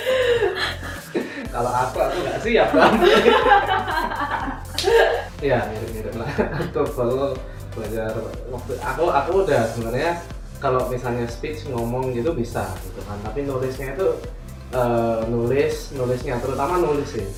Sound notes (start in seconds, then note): 2.6 laugh